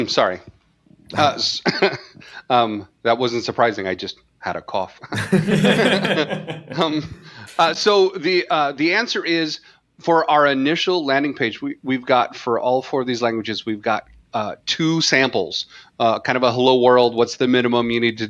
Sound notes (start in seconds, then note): 5.0 laughter